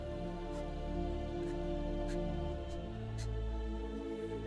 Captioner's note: sobbing